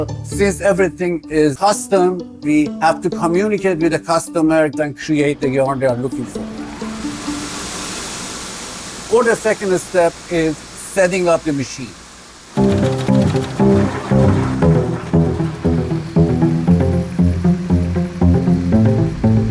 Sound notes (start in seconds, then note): 6.7 machines whirring; 12.6 intriguing orchestral music; 12.7 machines whirring